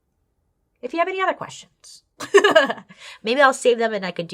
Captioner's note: laughs